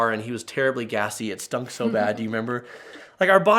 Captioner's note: laughing